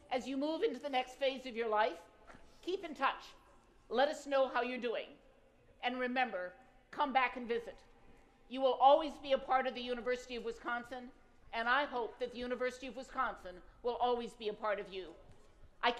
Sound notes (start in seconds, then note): none